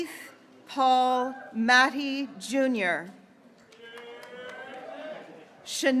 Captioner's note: graduates cheering